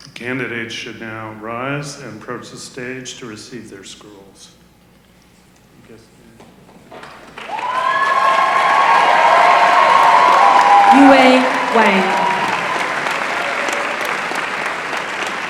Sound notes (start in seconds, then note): 7.0 applause